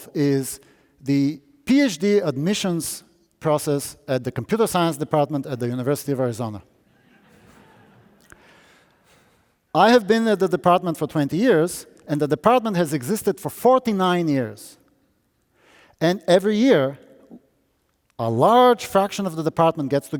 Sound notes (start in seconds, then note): 7.0 audience laughing